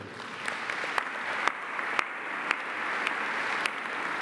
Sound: audience applauding

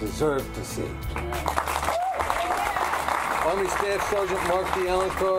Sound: group applauding and cheering

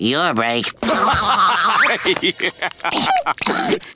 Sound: laughing

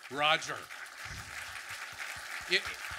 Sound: audience clapping

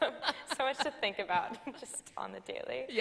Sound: chuckles

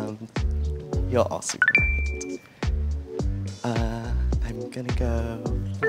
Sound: electronic beep

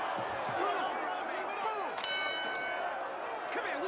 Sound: bell rings

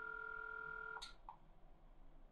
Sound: click

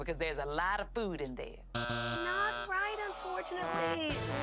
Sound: buzzer buzzes

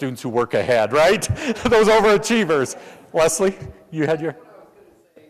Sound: laugh

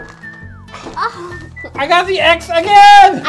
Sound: sigh

